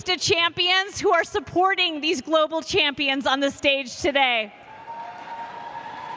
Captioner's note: cheers and applause